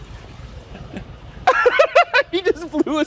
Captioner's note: laughs